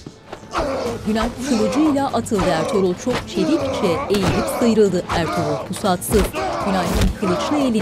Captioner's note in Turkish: Dövüş sesleri; Bağırma sesleri